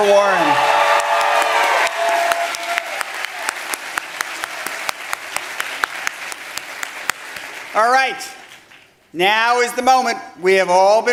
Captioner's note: applause